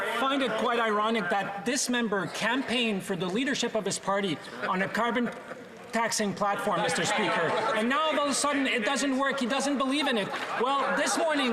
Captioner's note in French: voix de l'interprète